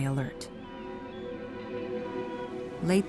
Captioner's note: ship horn blares, birds squawk